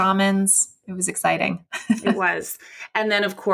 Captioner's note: laughs